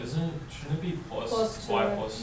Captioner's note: voiceover